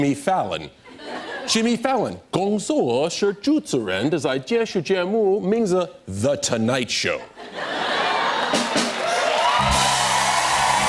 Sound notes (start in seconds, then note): 0.8 laughter; 1.7 speaking Mandarin; 8.1 cheers and applause